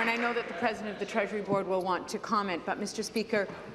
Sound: applause

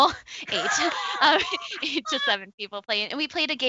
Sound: laughs

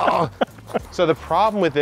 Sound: laughing

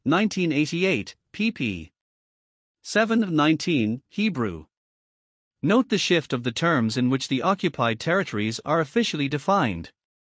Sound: Hebrew

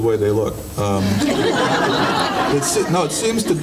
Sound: audience laughing

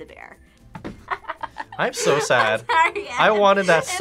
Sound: laughs

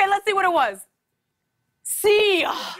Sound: sighs

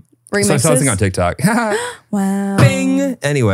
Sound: laughs

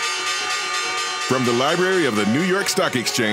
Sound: upbeat music; voiceover

